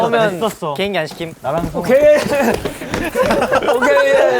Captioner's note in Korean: 우르르르